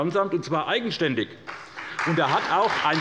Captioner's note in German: Beifall bei der SPD